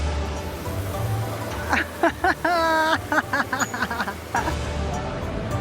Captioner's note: laughs